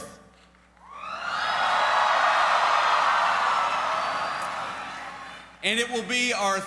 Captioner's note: cheers